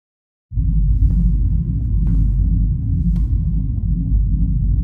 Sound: vibrations humming

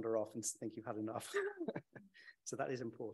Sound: chuckles

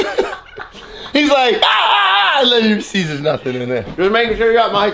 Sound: laugh; screams

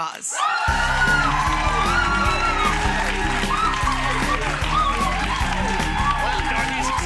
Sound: audience applauding; upbeat music

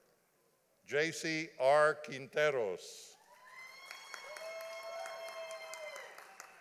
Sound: audience applauding

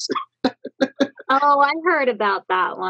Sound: laughs

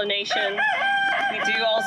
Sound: rooster crowing

